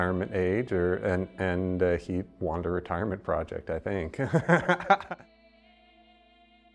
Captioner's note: laughs